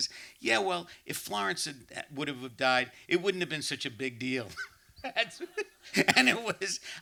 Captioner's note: laughs